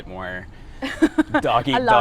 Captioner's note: laughs